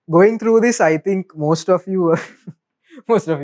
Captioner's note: chuckles